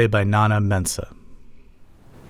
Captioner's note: soundbite of tv show, "the diplomat"